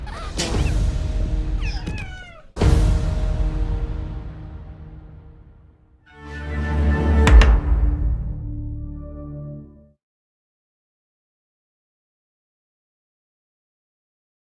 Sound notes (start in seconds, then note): 0.0 sneezes; 1.6 whimpers